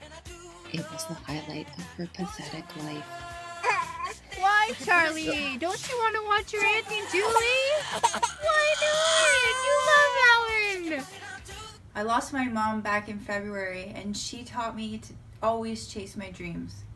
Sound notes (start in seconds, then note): 3.9 crying baby; 6.4 more aggressive crying